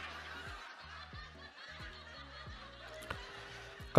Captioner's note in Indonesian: tertawa